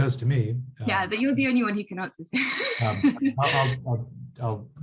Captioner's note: laughs